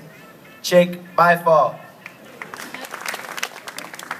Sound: applause

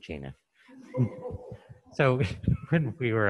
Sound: chuckling

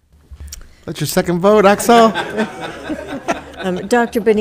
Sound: audience laughing; laughs

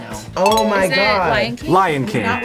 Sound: bell dings

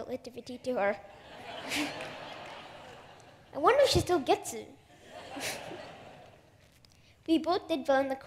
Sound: laughter

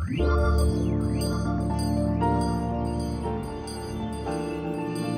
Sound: upbeat music; bell ringing

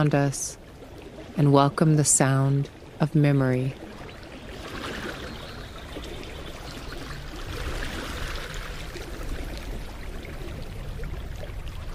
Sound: lapping water babbling against the shore

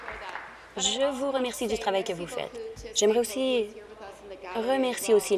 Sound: applause

